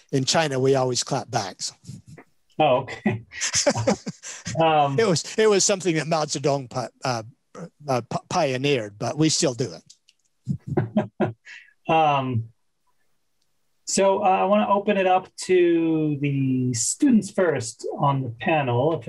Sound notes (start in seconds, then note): 2.8 laughs; 10.4 laughs